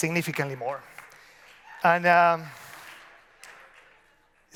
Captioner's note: scattered applause